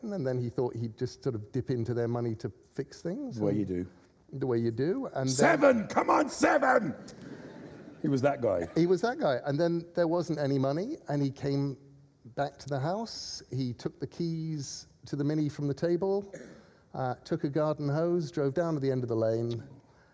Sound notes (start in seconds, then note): 7.0 laughter